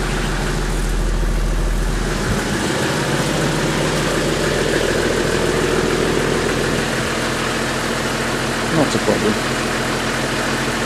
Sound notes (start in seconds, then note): 4.6 engine can be heard running smoothly